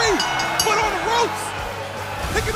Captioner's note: bell ringing